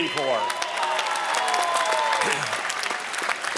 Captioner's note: applause